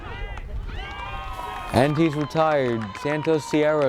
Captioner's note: crowd cheers